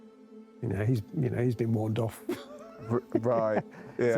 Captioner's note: chuckling